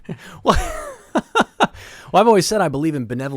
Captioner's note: laughs